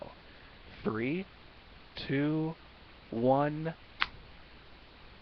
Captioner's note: clap